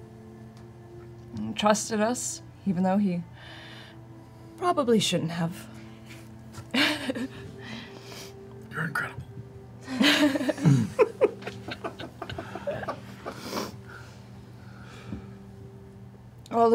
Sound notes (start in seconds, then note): 8.8 whispers